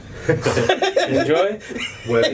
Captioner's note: laughing